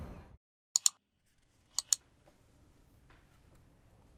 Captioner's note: keyboard clicks